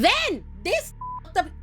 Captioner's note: beep